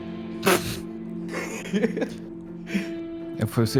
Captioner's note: laughter